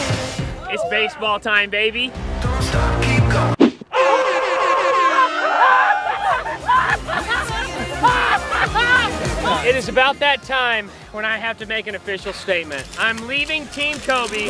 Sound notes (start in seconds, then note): 4.0 cheering and laughter